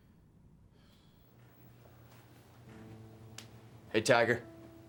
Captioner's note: Becky softly sighs